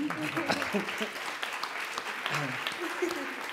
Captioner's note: applause